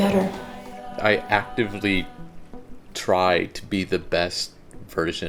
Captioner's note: voiceover